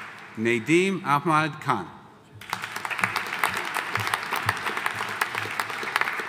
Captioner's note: audience applauding